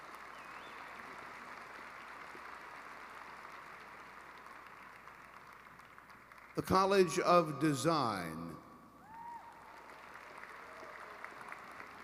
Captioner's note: applause